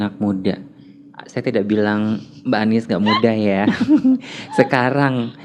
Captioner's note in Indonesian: laugh